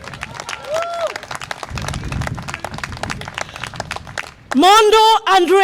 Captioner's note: audience applause and cheer